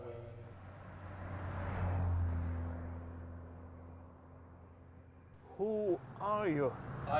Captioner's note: opposing traffic rumbles